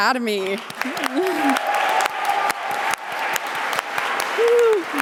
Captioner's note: audience applauding